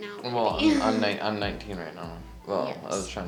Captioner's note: laughs